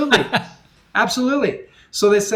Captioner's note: laughs